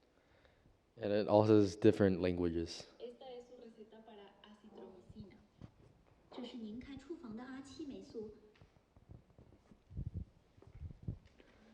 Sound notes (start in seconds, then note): 4.5 non-english speech